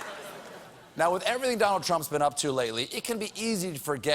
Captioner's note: laughter